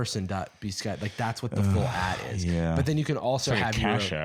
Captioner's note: sighs